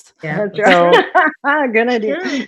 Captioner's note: laughs loudly